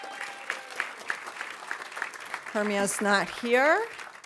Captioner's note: audience cheering; audience applauding